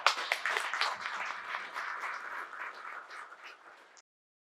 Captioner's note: audience applauds